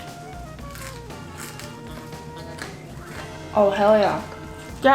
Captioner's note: crackling sound